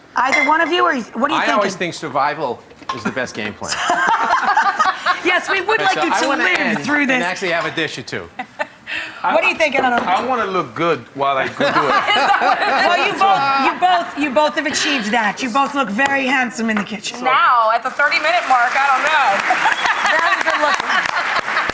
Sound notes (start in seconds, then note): 3.6 laughing; 19.4 laughs